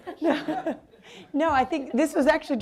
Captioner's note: audience laughing